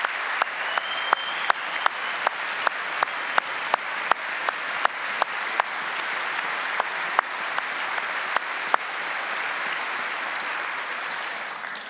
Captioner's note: applause